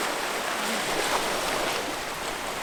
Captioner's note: waves sounds